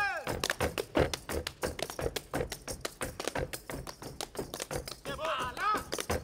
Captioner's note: feet stomping and hands clapping; speaking language other than English